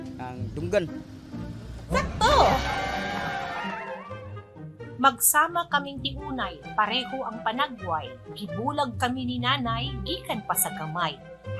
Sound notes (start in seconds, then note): 1.9 excited cheering; 2.0 digital voice